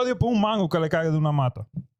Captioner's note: speaking In Foreign Language